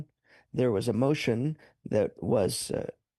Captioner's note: speaking French